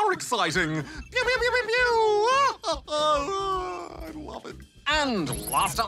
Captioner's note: laughs